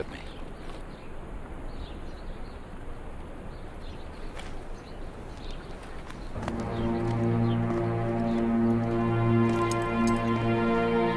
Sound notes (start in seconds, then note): 5.2 footsteps; 6.3 dark orchestral music